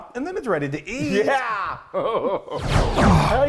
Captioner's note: chuckling